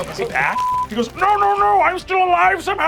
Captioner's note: beeping